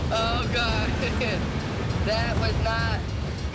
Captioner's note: chuckles